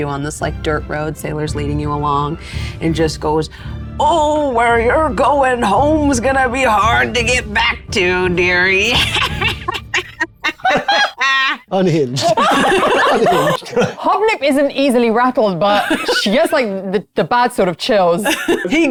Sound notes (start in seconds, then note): 8.8 laughs; 10.7 laughing